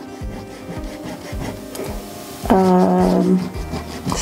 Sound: eraser rubbing

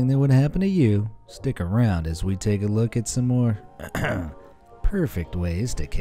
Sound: ahem

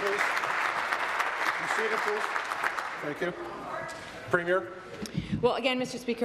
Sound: applause

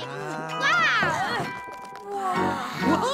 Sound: sigh

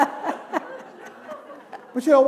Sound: laughter

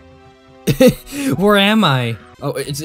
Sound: chuckle

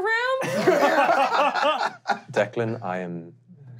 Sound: laughing

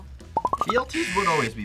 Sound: buzzer

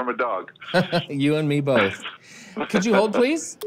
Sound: laughs; Bob Laughs

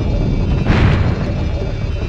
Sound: crash

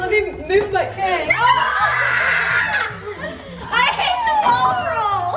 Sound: screams

